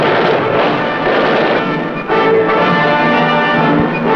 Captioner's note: blast